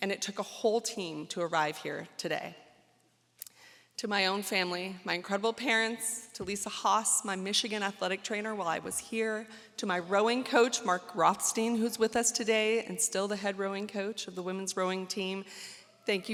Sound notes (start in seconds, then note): none